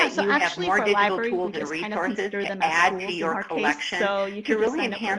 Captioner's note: murmurs